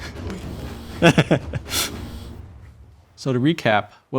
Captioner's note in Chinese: 大笑